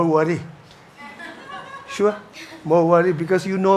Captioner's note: audience chuckles